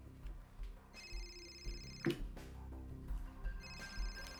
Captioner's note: phone ringing